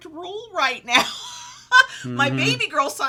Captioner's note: laughs